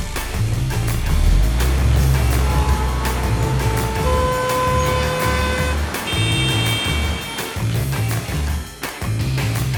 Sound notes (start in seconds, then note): 2.1 engine revving; 3.6 cars beeping